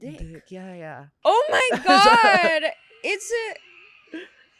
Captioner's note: laughs